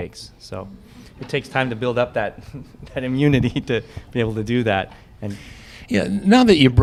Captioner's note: laughter